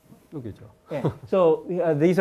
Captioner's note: speaking in Korean